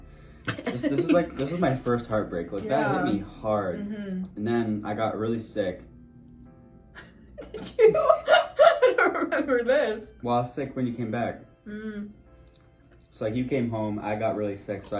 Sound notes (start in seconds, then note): 7.0 laughs